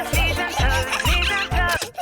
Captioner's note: giggling; music stops